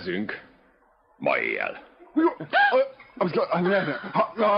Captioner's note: chanting gibberish